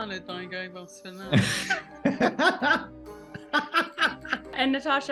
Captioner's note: laughter